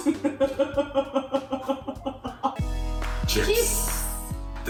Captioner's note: laughing